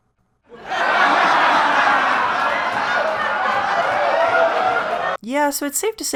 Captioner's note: laughter